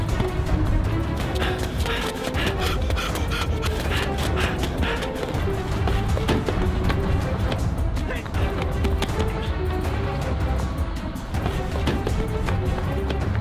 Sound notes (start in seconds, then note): 8.7 heavy breathing